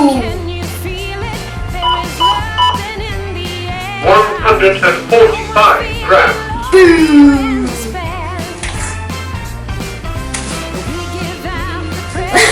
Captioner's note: giggle